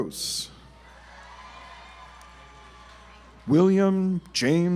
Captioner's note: audience applauds